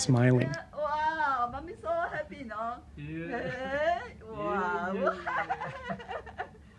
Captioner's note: laughs